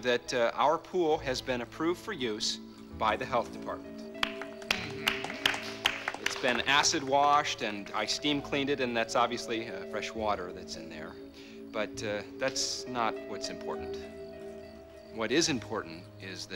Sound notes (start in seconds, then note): 6.2 <i> applause</i>